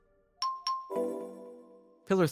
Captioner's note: device chiming